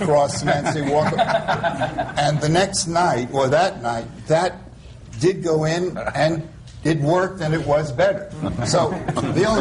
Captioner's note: laughter; laughter